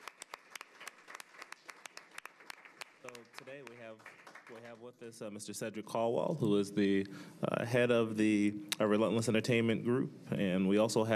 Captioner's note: applause